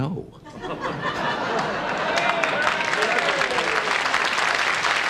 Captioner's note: audience laughing, cheering